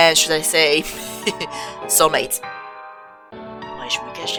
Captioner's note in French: pouffe de rire